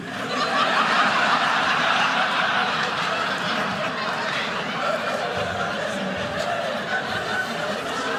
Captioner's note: audience laughing